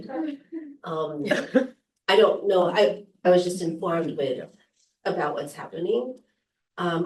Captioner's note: laughter